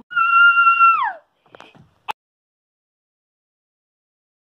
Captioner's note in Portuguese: gritos